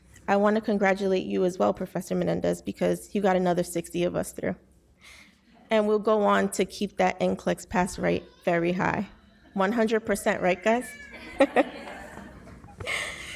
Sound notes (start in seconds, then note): 11.0 laughs